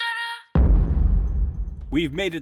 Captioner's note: dramatic boom